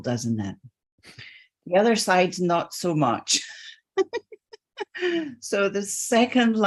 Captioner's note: laughs